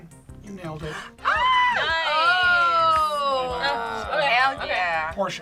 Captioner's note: squeals